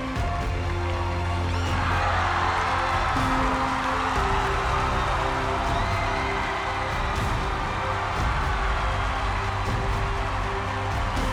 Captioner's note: cheering